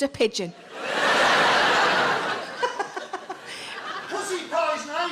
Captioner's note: audience laughs